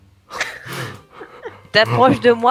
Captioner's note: laugh